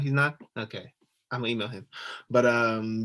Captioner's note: laughing